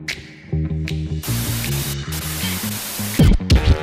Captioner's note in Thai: เสียงโทรทัศน์